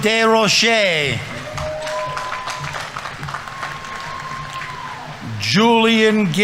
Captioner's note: audience members cheering; audience applauding